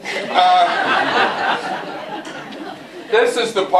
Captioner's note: laughter